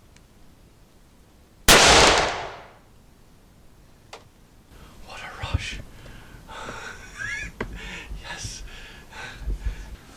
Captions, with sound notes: (gunshot) What a rush. Yes.